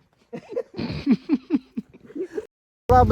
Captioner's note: everyone is laughing